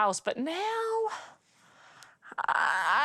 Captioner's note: none